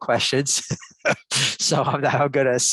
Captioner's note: laughs